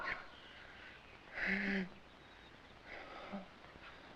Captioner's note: Barney moans